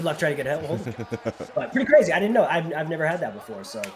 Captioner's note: laugh